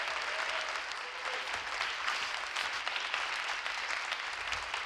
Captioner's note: audience clapping